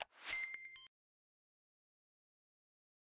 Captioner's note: beeping